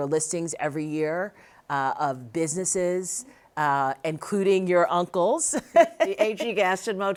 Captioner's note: laughs